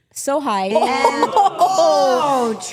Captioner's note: women laughing